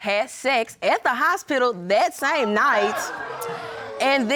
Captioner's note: audience exclaiming